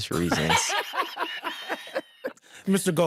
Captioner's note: all laughing